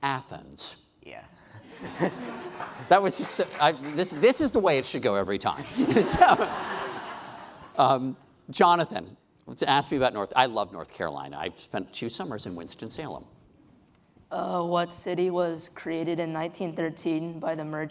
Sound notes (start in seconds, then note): 5.7 laughing